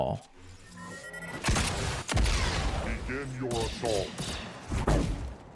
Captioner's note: gunshots